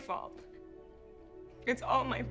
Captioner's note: sobs